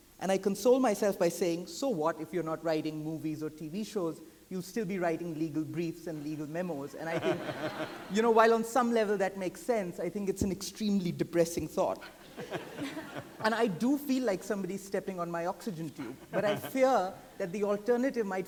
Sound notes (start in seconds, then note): 7.0 audience laughing